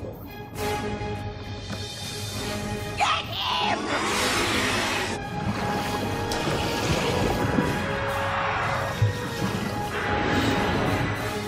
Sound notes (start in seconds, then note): 3.7 both roaring